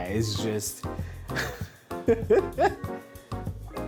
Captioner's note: laughs